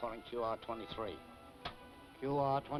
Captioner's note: device clicks